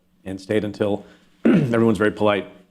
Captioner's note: clears throat